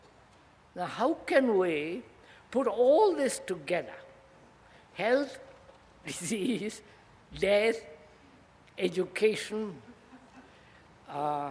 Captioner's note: laughs